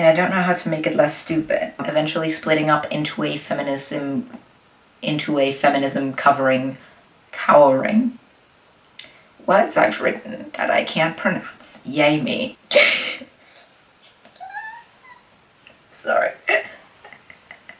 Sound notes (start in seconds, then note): 14.0 more laughing